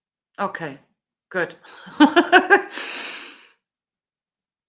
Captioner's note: laughs